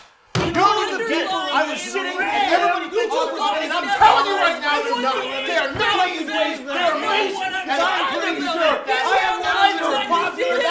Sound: yelling

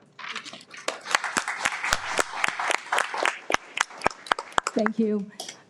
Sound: everyone applauds

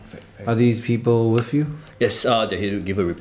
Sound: none

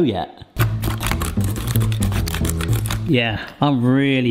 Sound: nuts crunching

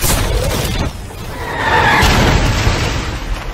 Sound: cannon Balls Whistling Through The Air

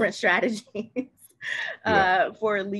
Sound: laughs

